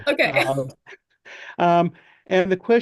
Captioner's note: laughs